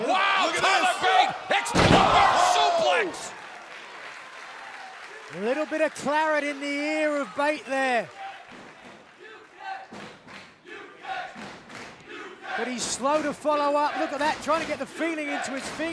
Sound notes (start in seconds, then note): 3.8 crowd cheering; 8.2 crowd cheering